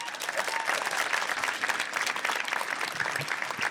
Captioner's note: audience applauds